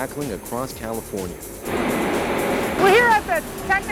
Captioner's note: sounds of heavy machinery